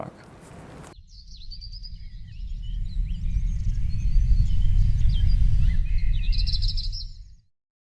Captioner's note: pájaros trinando